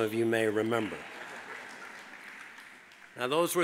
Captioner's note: audience applauds